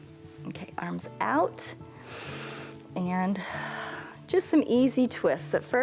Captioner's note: inhales